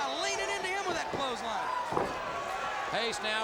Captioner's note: crowd cheering